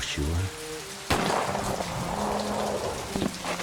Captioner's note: gunshot